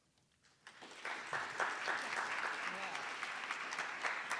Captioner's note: attendees applauding